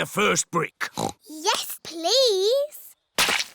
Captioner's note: oinks